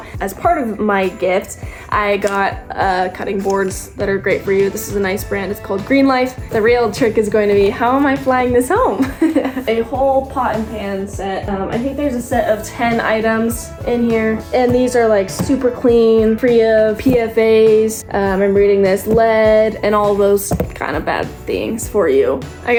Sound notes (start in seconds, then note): 9.0 laughs